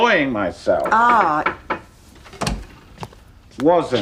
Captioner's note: knocking at door